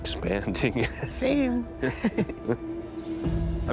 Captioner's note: chuckles; both laugh